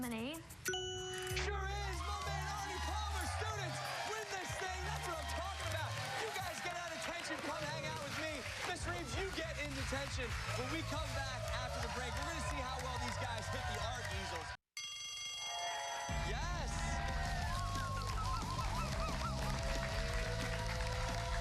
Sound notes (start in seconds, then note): 9.9 bell rings; 12.0 cheers and applause